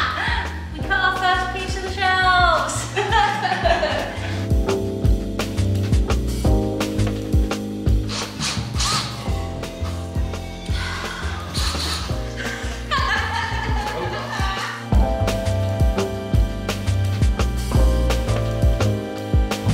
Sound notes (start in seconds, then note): 4.5 mellow lounge music; 8.1 power tool buzzing; 12.3 laughing